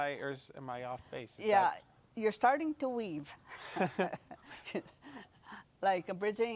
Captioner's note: laughs